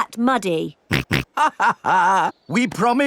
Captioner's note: snorts; chuckles